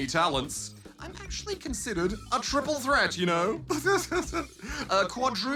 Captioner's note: chuckles